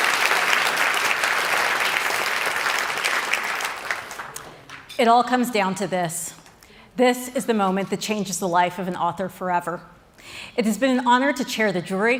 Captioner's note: cheering and Applause